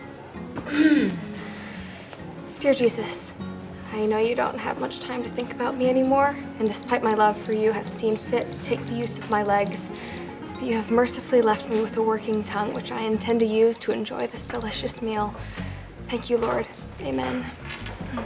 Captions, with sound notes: (clears throat) Dear Jesus, I know you don't have much time to think about me anymore. And despite my love for you, you have seen fit to take the use my legs. You have mercifully left me with a working tongue which I intend to use to enjoy this delicious meal. Thank you Lord. Amen.